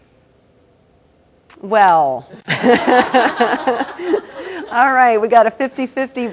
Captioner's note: audience laughter